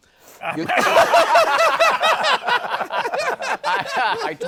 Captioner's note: laughter